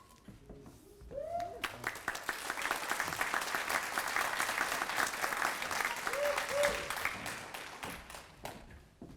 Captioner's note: applause